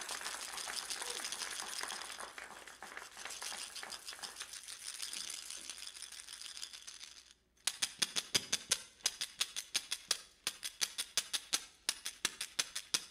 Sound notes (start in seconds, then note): 0.3 rattle, rattle, rattle; 7.1 click, tick, clack, tack